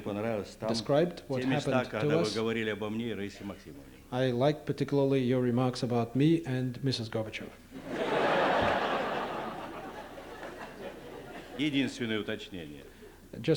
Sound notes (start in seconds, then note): 0.0 non-english speech; 3.2 non-english speech; 7.8 laughter; 12.2 non-english speech